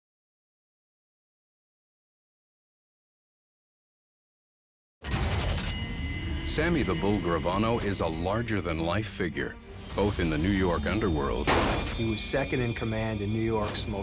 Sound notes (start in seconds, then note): 11.4 gun shot